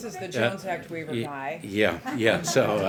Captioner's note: laughter